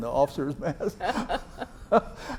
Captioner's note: laughs